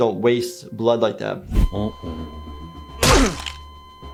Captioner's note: beep flat lines; squishy thud